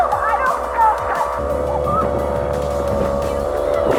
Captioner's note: laughs